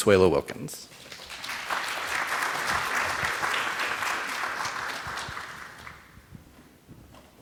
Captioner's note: applause